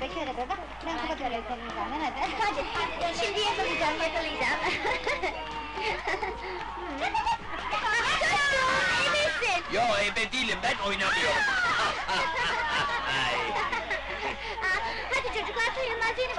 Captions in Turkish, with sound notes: - Yakaladım.. ebesin! Yo ebe değilim, ben oynamıyorum! [Fonda öğrencilerin neşeli gülüşleri] Hadi çocuklar!